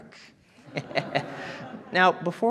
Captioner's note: audience chuckling; chuckling